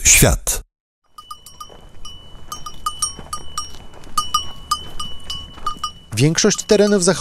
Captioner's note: sheep Bells